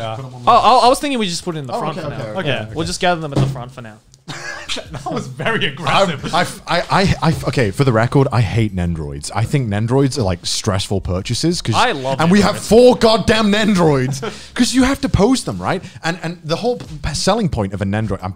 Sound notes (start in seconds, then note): 4.2 laughing